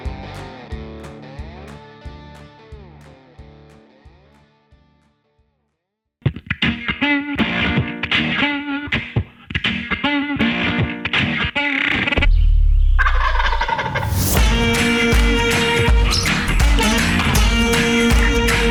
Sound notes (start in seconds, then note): 6.3 synthesized country music; 13.0 turkey yelping; 14.1 synthesized country music